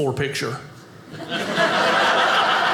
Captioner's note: audience laughing